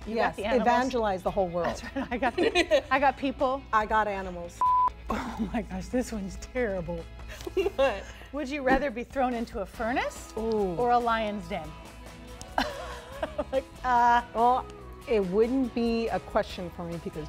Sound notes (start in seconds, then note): 4.6 beeping noise; 12.5 laughs